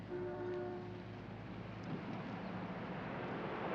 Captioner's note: car horn honking